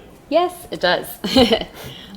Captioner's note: laughs